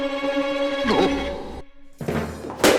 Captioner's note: gasping